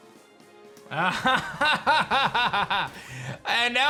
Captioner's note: laughs